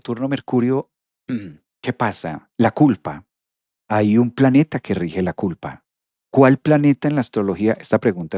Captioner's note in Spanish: carraspeo